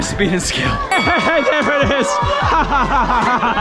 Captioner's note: laughs